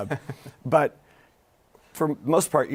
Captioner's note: laughs